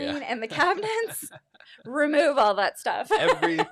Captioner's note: laughs